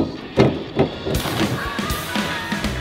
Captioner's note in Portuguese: Splash